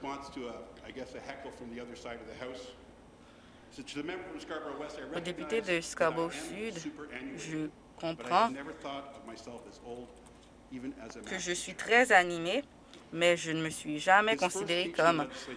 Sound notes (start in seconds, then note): 4.1 chuckling